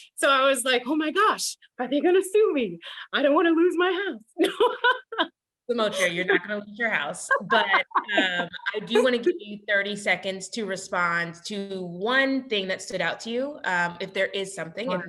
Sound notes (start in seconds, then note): 5.9 laughs